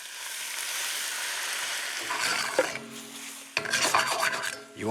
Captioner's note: sizzling